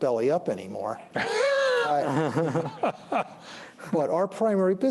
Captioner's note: laughter